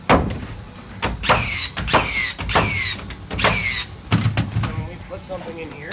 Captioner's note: nail gun whirring